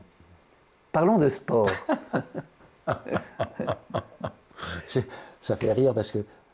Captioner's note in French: Rire